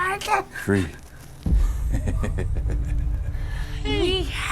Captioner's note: chuckles evilly